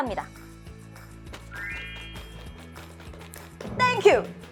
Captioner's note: clap clap clap